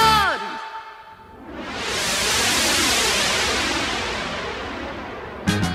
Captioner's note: sound of a departing airplane